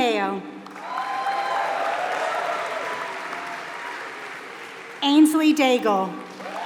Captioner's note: applause